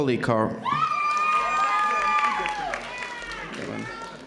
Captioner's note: audience cheering